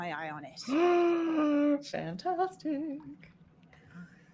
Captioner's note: gasping